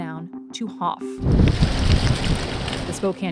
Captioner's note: wind whooshing